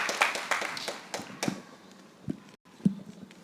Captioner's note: applause